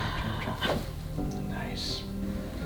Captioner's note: patient deep exhale; crack